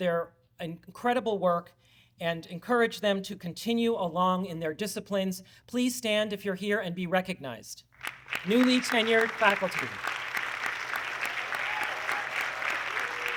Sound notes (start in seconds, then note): 8.0 audience clapping